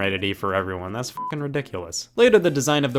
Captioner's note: beep